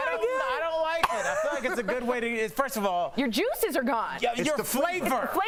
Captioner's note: laughter